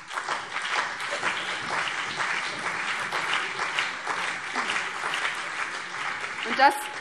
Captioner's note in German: Beifall BÜNDNIS 90/DIE GRÜNEN und vereinzelt CDU